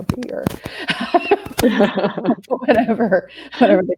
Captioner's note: laughing